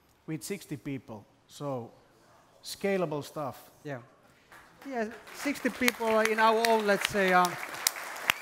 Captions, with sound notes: - We have 60 people, so scalable stuff. (audience applauds) - Yeah, 60 people in our own, lets say